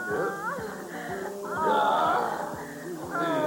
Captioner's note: passionate moans